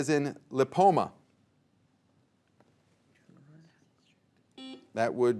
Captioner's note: players whispering; buzzer beeping